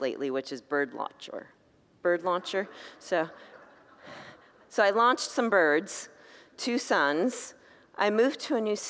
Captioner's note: congregants laugh